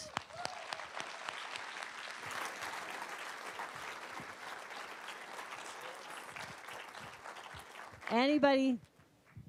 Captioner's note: applause